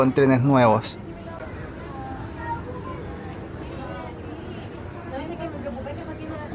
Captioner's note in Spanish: sonido ambiente, caminando en el tren SFB500